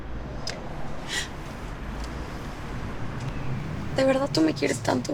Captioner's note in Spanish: Solloza